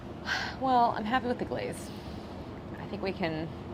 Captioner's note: sighs